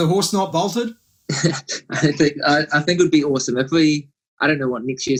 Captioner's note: laughs